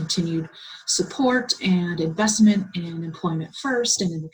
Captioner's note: Vietnamese